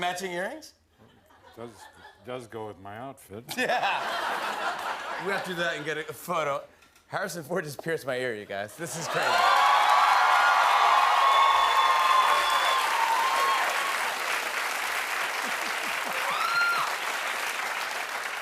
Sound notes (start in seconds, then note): 9.3 cheers and applause